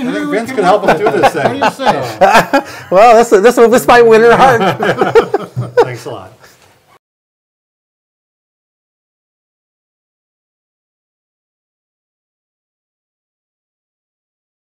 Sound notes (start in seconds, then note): 0.6 laughing; 4.0 group laughing; 4.2 laughing